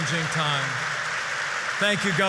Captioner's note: applause